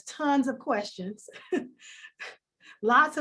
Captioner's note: laughs